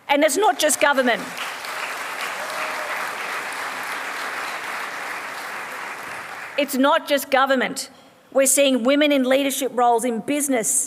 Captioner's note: applause